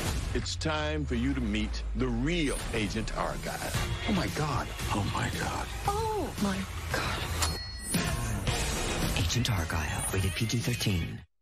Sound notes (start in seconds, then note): 7.4 ding